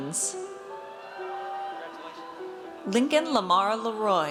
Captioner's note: audience cheers